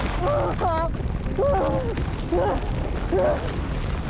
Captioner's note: Jim panting